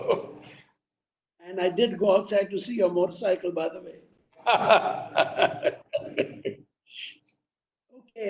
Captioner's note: laughs; Sadhguru laughs